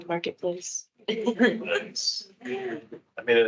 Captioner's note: laughing